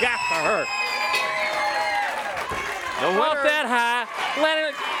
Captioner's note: crowd chatter